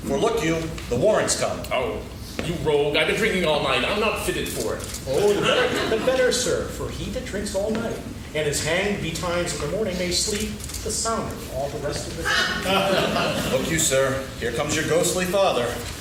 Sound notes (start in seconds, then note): 5.2 laughing; 12.2 laughing